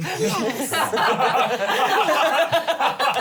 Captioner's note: laughing